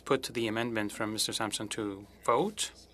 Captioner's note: speaking french